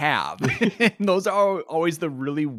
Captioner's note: both laughing